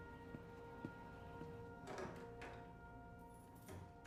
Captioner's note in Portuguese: porta se abre, chaves tilintam, porta se fecha